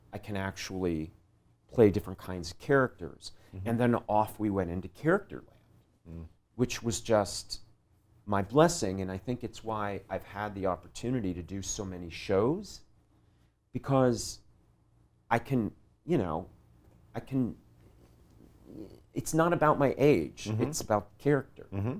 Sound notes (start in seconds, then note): 5.6 voice muffled